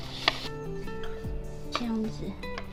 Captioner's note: sawing